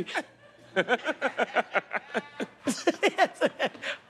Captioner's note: laughter